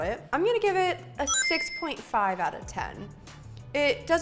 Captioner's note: ding